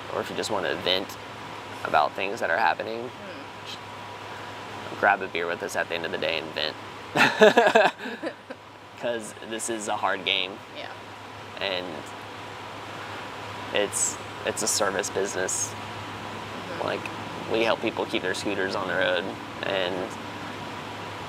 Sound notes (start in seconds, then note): 7.2 laughing